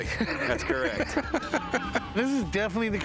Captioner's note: laughter